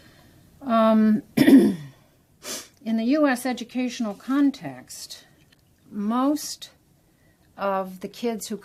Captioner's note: cough